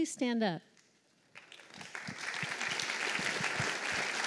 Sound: applause

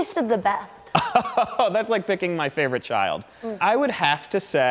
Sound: laughs

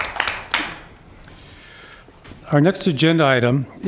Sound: applause

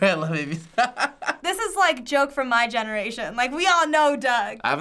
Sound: laughs

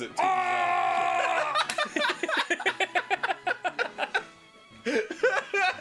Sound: Arin and Danny laugh; Arin still laughing

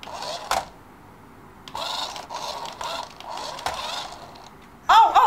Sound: electronic motor starts and stops; electronic motor starts and stops

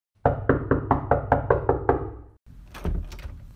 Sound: knock-knock-knock; door-opens

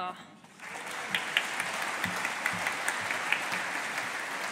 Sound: audience applauding

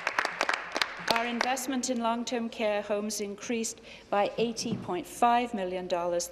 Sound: applause

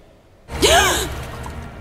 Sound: Korra gasps for air

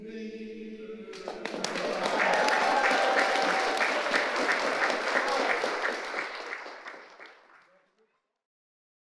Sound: audience applauding

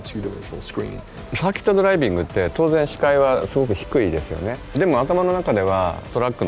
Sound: Kazunori speaking in Japanese

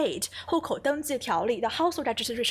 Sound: speaking Mandarin

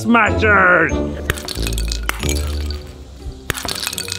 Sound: clinking

